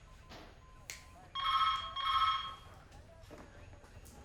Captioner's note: telephone ringing; snapping